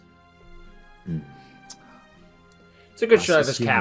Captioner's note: sighs